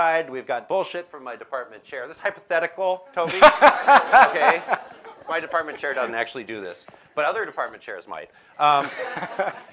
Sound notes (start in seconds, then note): 3.2 laughter